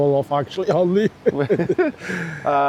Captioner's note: laughing